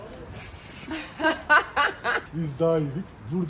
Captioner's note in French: rires